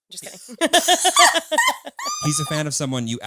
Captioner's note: all laughing